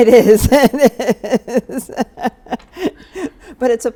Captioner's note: laughs